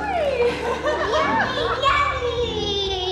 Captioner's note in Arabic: يضحك